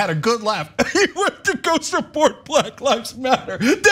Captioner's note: laugh